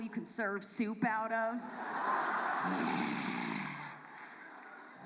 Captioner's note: audience laughs